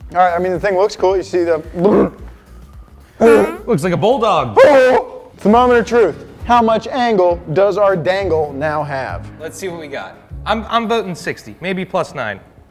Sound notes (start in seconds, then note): 3.2 grunts; 4.5 barks